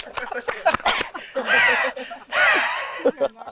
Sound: wheezing

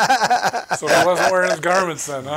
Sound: chuckling

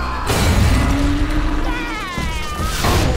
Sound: screaming

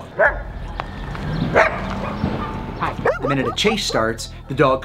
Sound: dog barking

